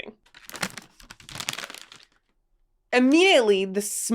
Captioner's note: wrapper crinkles